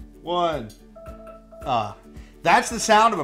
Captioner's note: timer ringing